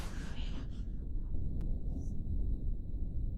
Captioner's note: distant thunder continues